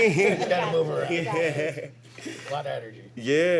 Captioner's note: laughter